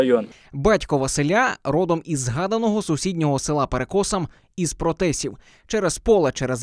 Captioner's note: voiceover